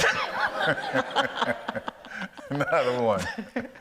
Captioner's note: audience laughs